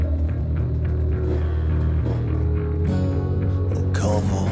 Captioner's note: motorbike revving